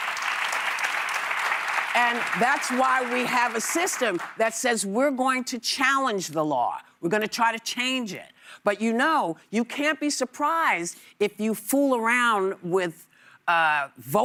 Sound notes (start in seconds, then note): 3.6 applause